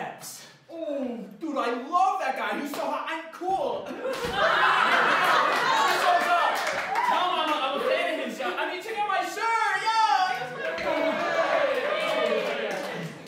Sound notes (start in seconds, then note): 3.9 laughter; 10.9 audience goes "Ayyyy"